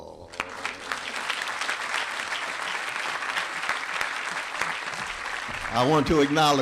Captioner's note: applause